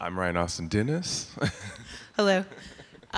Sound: laughter

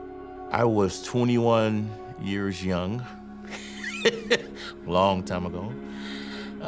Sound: laughs

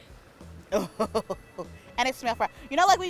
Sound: laughs

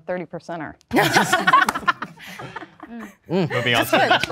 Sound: group laughing

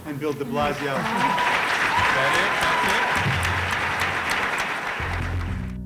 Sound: applause

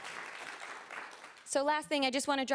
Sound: cheering & applause

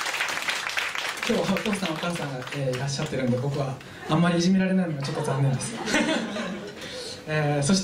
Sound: laughs

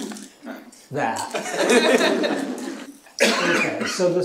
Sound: chuckling

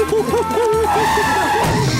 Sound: brakes screeching, thudding

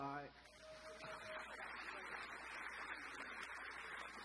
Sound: audience applause

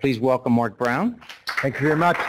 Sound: applause

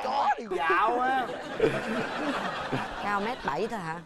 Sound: laughing

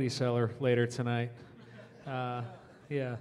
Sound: audience chuckling

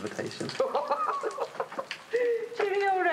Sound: laughing

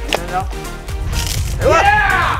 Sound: water squirting; yelling

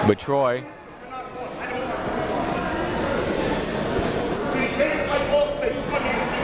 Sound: crowd talking; coaches yelling

